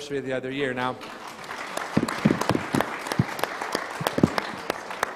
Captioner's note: crowd applauding